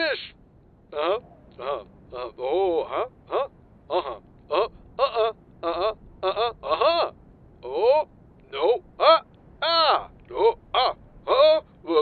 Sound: reaction noises

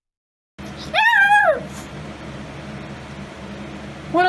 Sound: Ella bakrs and howls

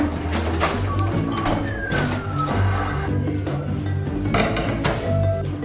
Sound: claw machine beeping

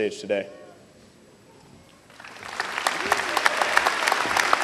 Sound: applause

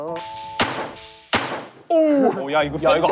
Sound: thud

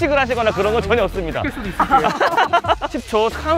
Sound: haha

